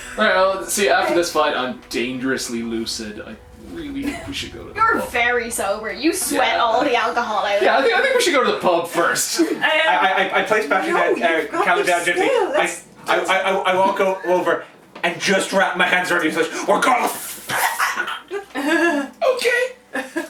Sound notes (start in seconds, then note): 17.5 choking